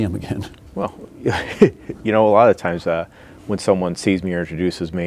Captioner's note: laughing